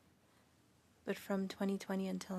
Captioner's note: speaking French